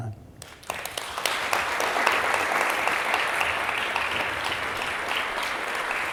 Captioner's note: applause